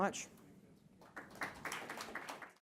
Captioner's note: audience applauding